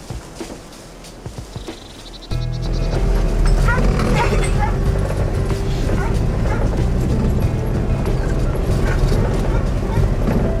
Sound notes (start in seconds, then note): 0.5 soft music; 3.8 car engine evving; 3.8 soft music